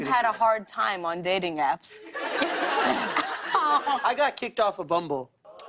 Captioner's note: laughter